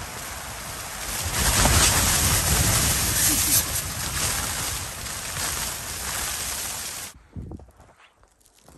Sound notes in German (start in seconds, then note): 0.0 Geräusch von starkem Wind, der das Zelt rüttelt; 1.2 lacht